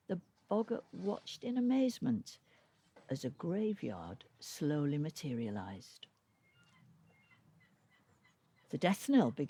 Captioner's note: faint sound of seagulls in background